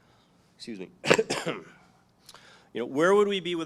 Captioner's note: coughs